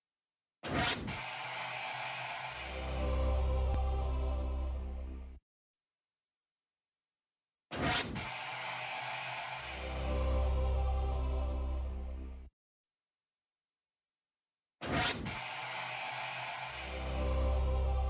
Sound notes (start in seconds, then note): 1.4 TV static and angelic singing; 7.6 TV static and angelic singing continues